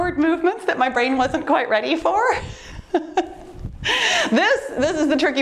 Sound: laughs

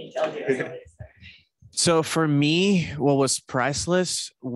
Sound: laughs

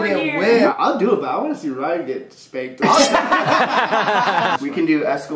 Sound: laughter

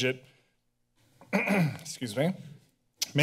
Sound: clears throat

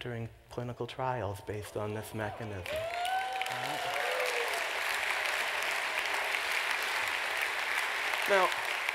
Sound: applause

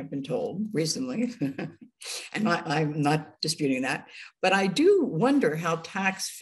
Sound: chuckling

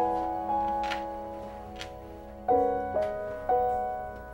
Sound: clanking

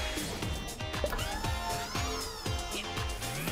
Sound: upbeat music; whirring

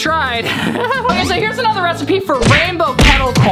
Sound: giggles

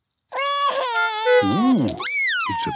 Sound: cries

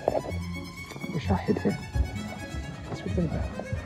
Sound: whispering

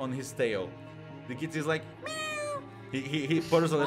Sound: cat meowing

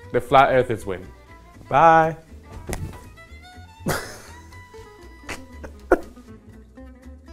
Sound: heavy thud of my body hitting the floor

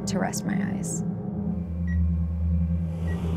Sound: beeping; ominous music

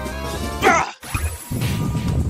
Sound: yell of New-found Power

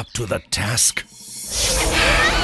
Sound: kids screaming

